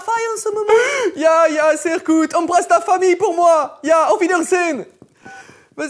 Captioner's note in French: accent allemand